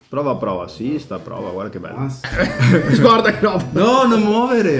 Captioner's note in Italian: risate